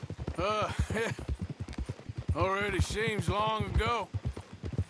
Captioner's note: sighs and laughs